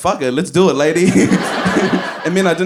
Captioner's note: laughs